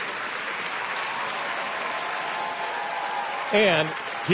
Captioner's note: audience cheers and applauds